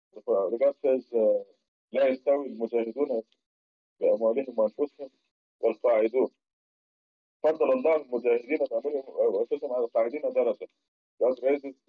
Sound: Arabic

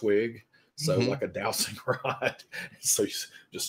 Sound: laughs

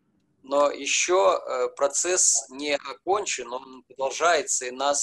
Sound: speaking foreign language

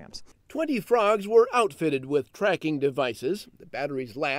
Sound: voiceover

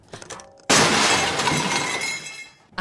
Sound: loud crash

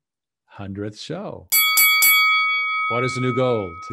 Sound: bell ringing

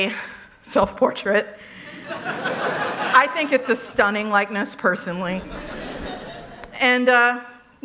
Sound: laughter

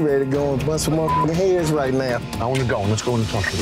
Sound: beeping

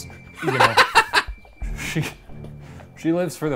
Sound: laughing

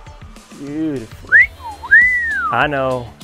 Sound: man whistling

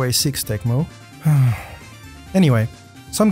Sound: sigh

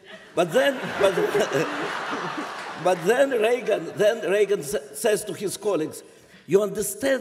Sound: laughter

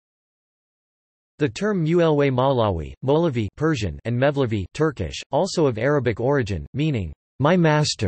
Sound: Turkish

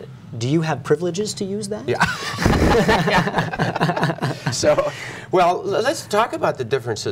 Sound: laughter

